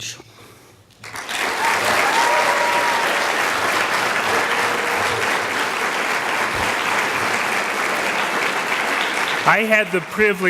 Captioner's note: sound of applause from the audience